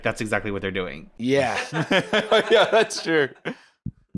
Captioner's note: laughing